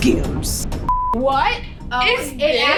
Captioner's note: beep